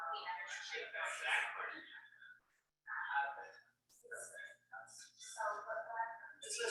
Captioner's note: people chattering indistinctly continues